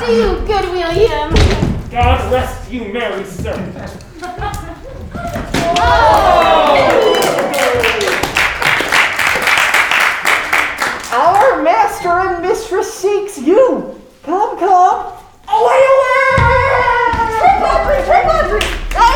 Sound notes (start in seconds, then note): 4.1 crowd; 8.9 clapping